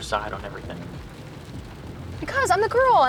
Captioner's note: rain pattering